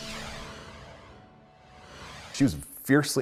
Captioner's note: logo swooshes